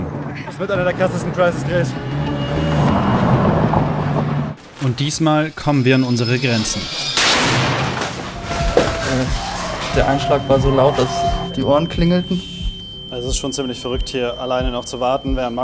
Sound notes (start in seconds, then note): 2.6 scratching noises; 7.2 loud bang; 12.4 loud whirring